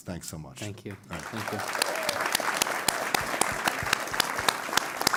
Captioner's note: applause